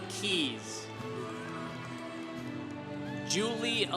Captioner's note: congregation cheering